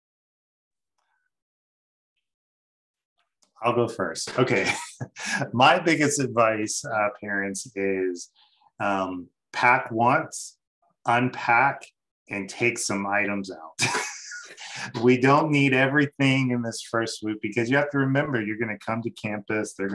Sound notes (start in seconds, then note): 4.3 laughs; 12.0 laughs